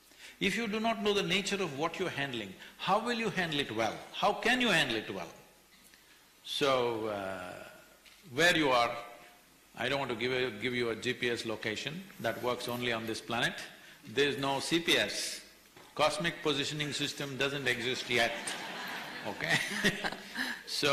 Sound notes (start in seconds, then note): 18.0 laughter; 18.0 laughs